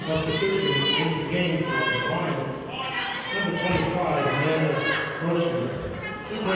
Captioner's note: players hollering